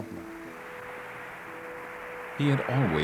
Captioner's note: applause